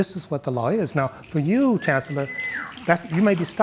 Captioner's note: audience member whistles